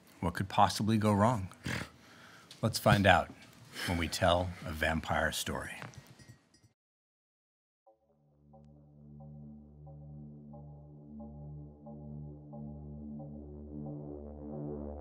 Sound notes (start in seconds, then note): 1.6 snorting; 8.0 eerie music